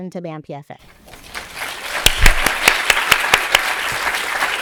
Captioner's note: people clapping